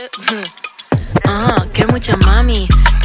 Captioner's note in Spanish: reloj corriendo